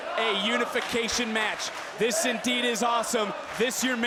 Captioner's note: crowd chants "This is awesome"